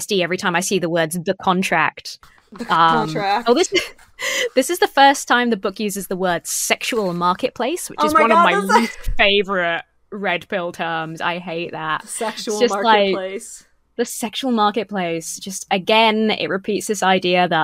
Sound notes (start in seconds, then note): 2.6 giggles